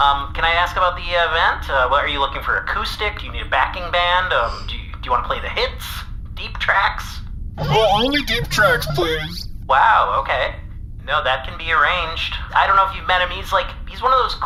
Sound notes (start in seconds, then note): 7.6 holding back laughter